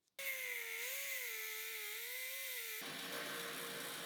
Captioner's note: machine whirring